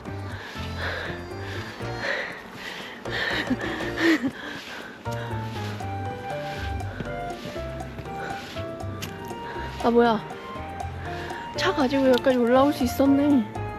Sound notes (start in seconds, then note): 0.3 panting without words lol; 5.2 sigh_